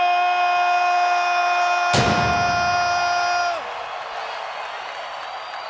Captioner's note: audience cheering